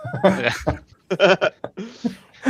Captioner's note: laughter